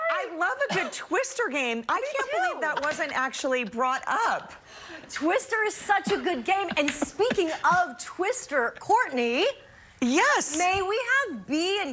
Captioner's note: laughter